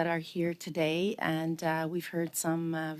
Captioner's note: speaking French